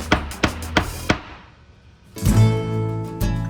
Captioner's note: crayon banging; calm music